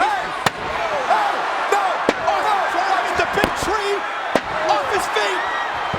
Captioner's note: overlapping chatter; presenter speaking faintly off mic